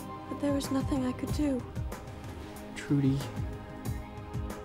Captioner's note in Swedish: none